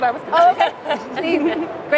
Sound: laughter

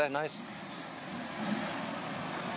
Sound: phat RS4 arriving

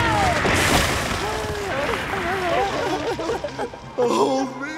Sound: crying

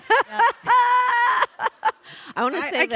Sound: Samantha laughing; audience laughing

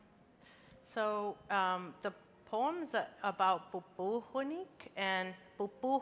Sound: speaking in a foreign language

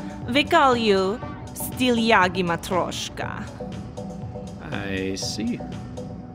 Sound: speaking Russian

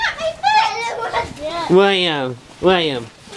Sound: laughing

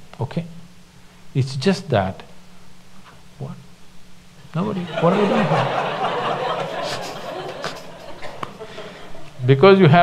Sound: laughter

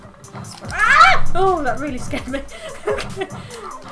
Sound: laughs

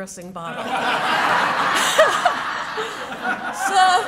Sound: laughter

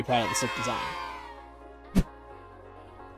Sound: cheers

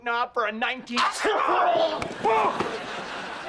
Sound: sneezing

